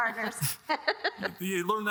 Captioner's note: laughing